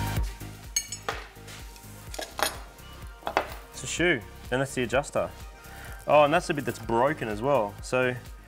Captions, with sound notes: [metallic clattering] That's a shoe. And that's the adjuster. Oh, and that's the bit that's that's broken as well. So,